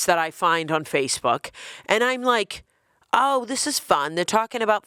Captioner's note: none